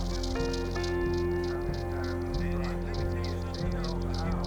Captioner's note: people chattering